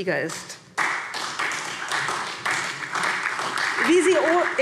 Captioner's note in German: Beifall SPD